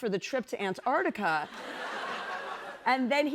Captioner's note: laughter